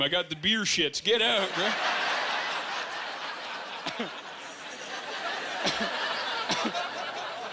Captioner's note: laughing